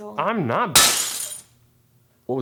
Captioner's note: glass shatters